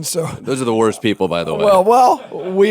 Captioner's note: laughter